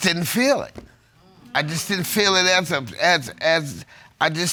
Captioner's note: stammers